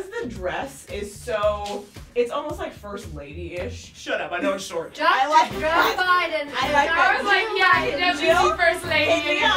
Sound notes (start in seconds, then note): 5.2 laughs